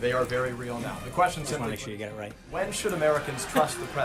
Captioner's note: laugh track